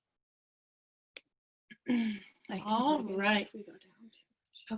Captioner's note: whispering